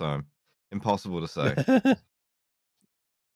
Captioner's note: laughs